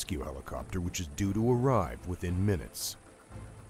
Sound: voiceover

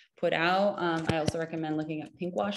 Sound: keys tapping

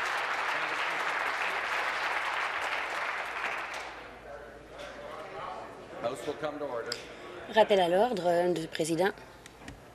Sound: applause

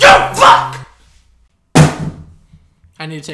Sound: audible thump

